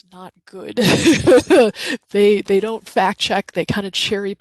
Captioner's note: laughs